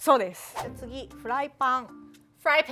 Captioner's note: speaking Japanese